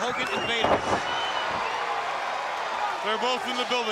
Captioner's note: crowd chatter